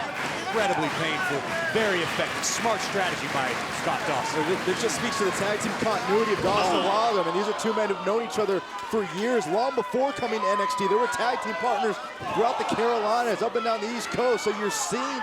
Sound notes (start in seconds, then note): 1.5 crowd cheering